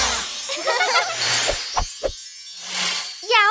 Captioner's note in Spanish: Risas